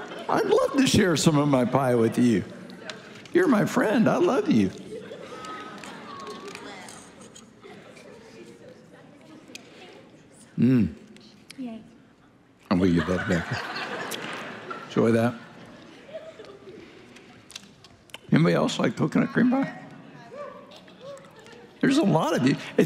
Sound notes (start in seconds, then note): 5.4 congregation laughing; 12.7 congregation laughing